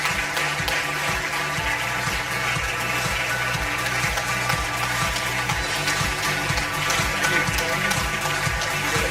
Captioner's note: audience applause; upbeat music